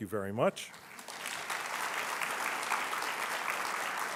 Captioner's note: applause